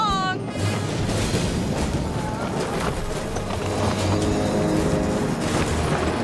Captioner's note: ominous music; plane clattering